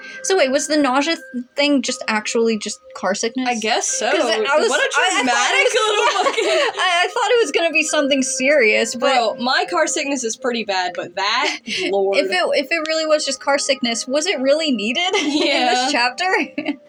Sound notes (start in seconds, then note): 4.1 laugh; 4.1 laughing; 12.0 snicker; 15.0 laugh